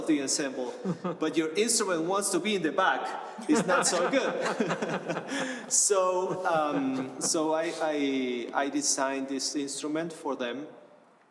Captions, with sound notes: the ensemble but your instrument wants to be in the back, [LAUGHTER] it's not so good. I designed this instrument for them.